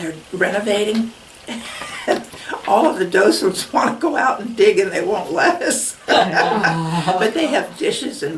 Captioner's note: laughs